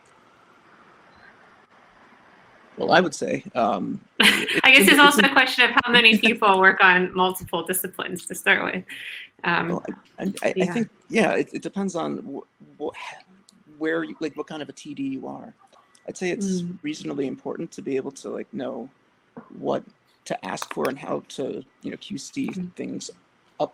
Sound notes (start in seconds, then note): 4.2 laughs